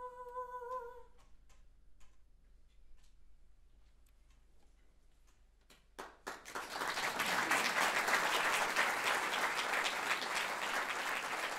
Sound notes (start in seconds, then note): 5.7 audience clapping